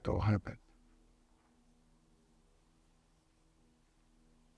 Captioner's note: pauses 10 seconds